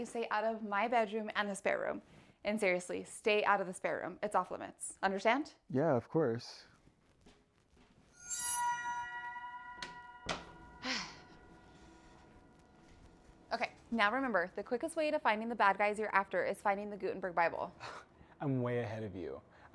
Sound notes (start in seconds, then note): 8.1 door thumps; 8.2 spine-tingling music